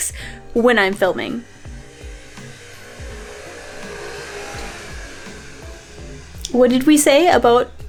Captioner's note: doppler motorcycle zooming